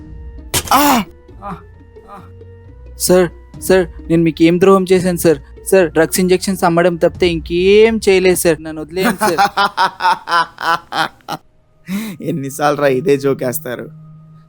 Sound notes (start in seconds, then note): 0.6 distressed voice in Pain; 2.7 pleading; 11.8 evil laugh